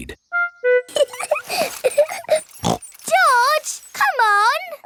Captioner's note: laughs and snorts